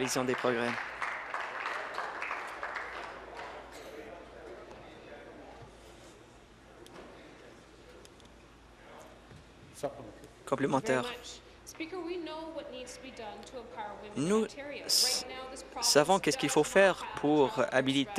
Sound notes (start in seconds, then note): 4.8 applause